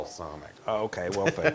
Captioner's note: laugh